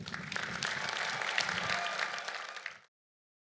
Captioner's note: applause